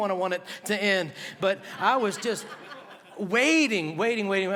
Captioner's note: laughter